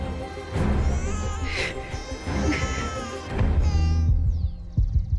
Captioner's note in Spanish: Continúa el llanto del bebé